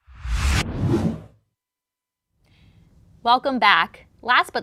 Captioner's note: computer digital swoosh